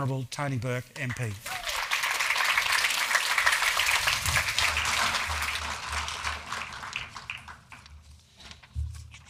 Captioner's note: applause